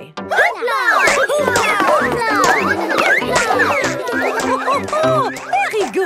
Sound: all laugh

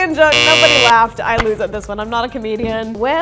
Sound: buzzer sounds

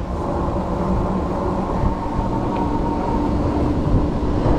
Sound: bike motor rumbling

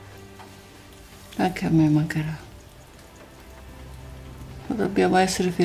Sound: speaking in Italian

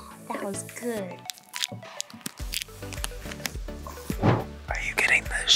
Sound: wrapper crinkles; whispers

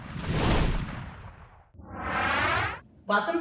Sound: whoosh

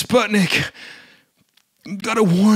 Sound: deep Breath

